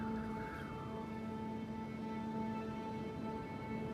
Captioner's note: wind whistling